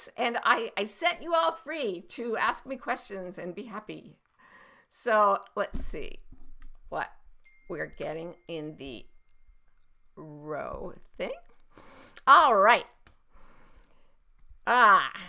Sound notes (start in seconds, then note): 10.3 notification chimes